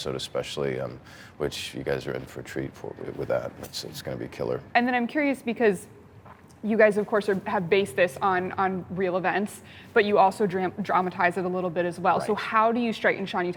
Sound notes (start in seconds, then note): none